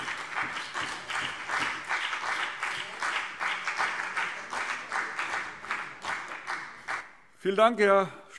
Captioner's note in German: Beifall BÜNDNIS 90/DIE GRÜNEN und vereinzelt CDU